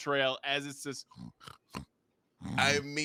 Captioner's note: imitates pig grunting